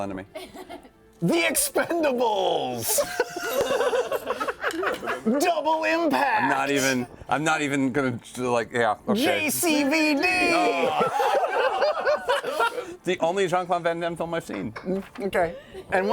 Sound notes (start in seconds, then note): 10.8 laughter